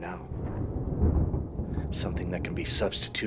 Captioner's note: thunder rumbling